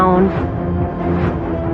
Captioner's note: air who whooshing